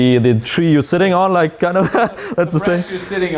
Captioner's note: laughing